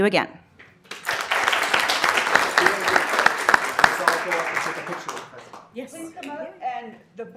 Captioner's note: applause